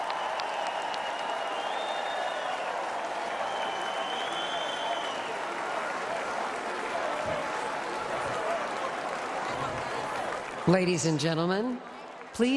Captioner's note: applause